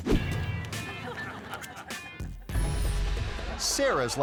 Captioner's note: upbeat music; air whoosh; audience laughing; upbeat music